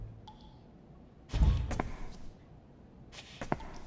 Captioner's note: water dripping; footsteps